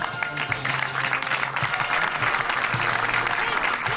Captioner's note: applause